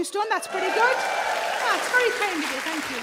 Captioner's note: audience cheers and applauds